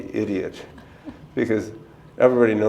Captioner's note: chuckle